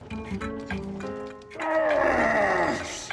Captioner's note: grunting